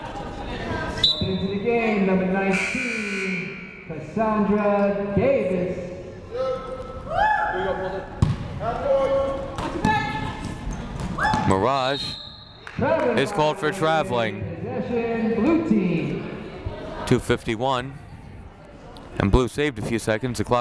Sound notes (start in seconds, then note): 2.5 whistle blowing; 2.5 buzzer sounding